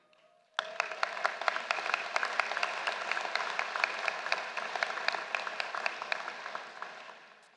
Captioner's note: applause